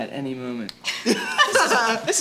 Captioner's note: everyone laughs